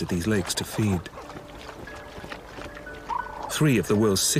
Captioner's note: splashing